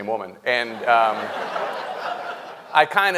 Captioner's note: audience laughing